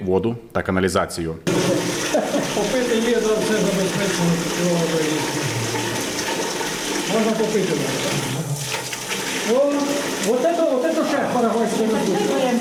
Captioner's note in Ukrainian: шум води